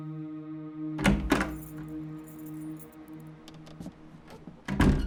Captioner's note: door clicks